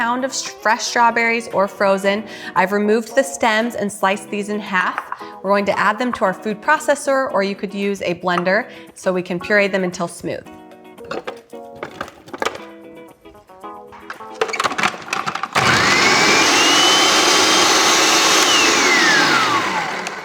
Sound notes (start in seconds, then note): 16.2 food processor whirring